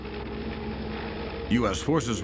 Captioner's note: helicopter whirring